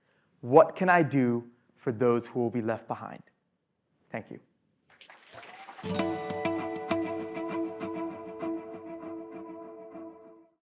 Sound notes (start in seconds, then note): 4.9 applause